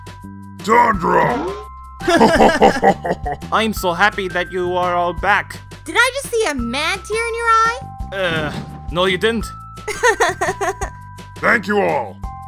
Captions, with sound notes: Tundra! (both laughing) I'm so happy that you are all back. Did I just see a man tear in your eye? Uhh... no you didn't! (laughing) Thank you all!